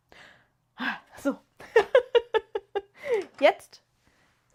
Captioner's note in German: gelächter